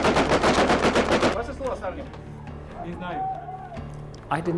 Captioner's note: people speaking in foreign language